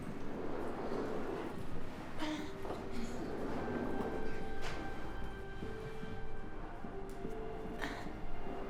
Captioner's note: crying